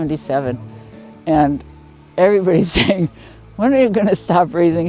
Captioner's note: laughing